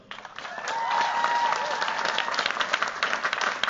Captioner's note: cheers, applause